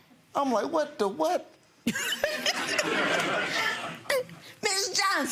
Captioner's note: audience laughs